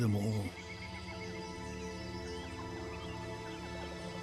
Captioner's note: birdsong